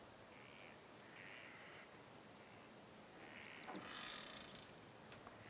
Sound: birds squawking

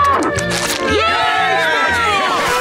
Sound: cheering

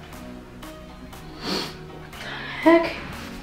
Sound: sniffs

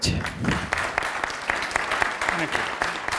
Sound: audience applauding

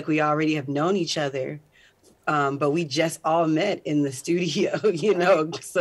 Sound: chuckles

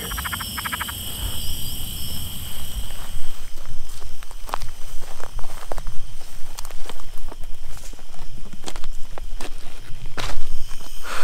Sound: footsteps

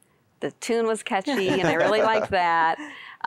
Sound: laughter

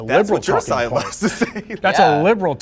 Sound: laughing

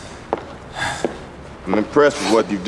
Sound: player sighs

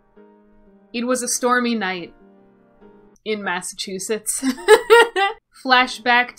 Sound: laughs

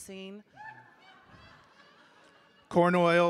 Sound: audience laughing

